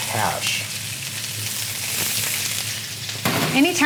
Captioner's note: sizzling